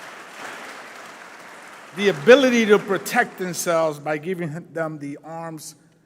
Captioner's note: applause